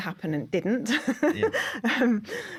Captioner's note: laughter